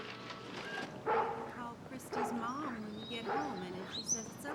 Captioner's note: angus barking